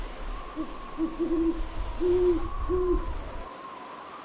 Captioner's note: pigeon cooing